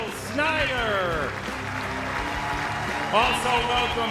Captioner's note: audience applauds